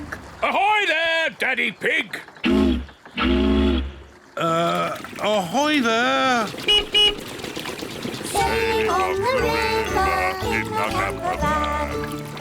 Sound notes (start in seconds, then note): 3.1 toots horn; 6.5 beeps horn; 12.2 oinks and giggles